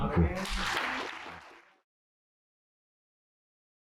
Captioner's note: applause